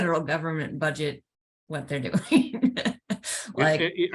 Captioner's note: chuckles